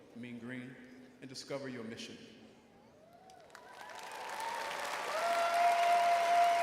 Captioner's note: audience cheering